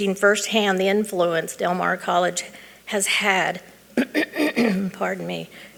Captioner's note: clearing throat